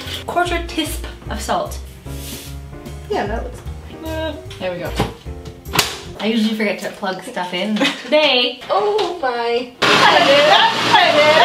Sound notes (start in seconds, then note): 8.9 laughs; 9.8 blender blends